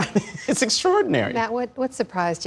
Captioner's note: laughter